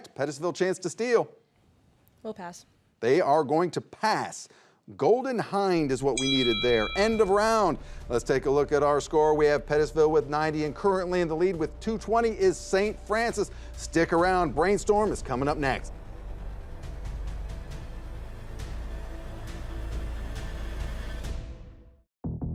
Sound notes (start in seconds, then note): 6.1 bell dings; 16.1 dynamic music; 22.3 active music